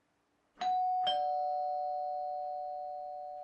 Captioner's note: doorbell rings